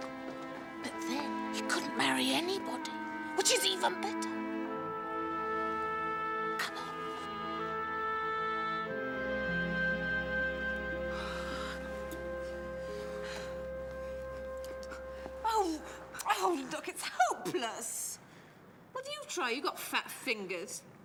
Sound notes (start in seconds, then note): 11.1 sighing